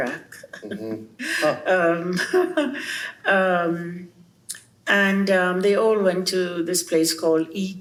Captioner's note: laughs